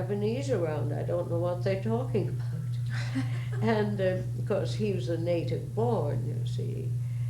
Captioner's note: laughter